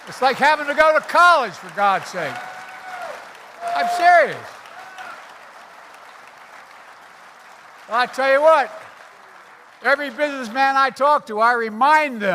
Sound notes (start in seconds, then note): 4.4 applause